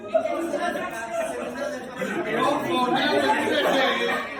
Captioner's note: crowd chatter